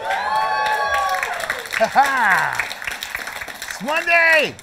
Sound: applause; laughter

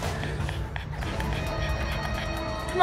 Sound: Gretel breathing loudly

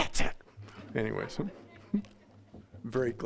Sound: audience laughing

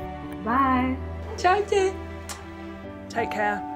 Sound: in foreign language

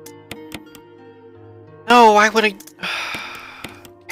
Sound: sigh

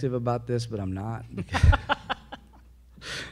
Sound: presenters laugh

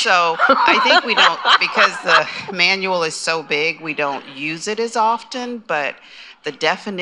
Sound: laughter

